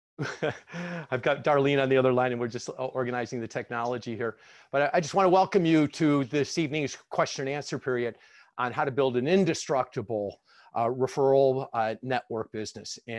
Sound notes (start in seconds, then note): 0.2 laughs